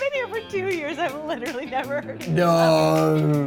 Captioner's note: laughs